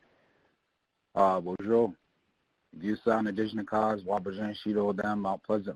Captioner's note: speaking in a foreign language